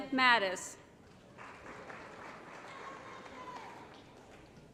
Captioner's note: applause